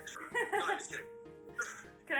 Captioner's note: laughs